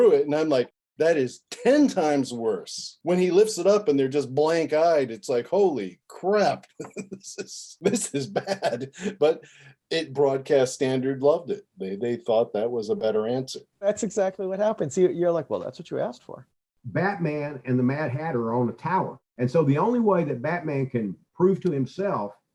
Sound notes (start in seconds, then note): 6.6 laughing